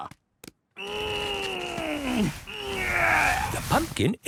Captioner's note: straining